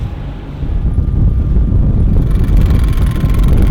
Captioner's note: wind rushing; gears clicking